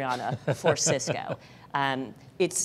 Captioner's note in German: lacht